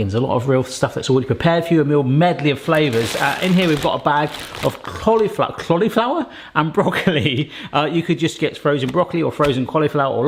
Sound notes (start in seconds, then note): 2.4 packet rustling